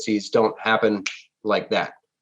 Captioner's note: snaps